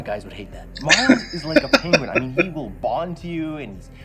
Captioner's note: laughing